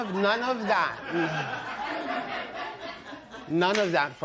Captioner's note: laughter